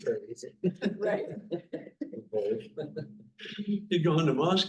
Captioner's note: laughing